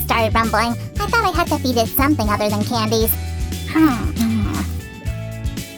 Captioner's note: munching sounds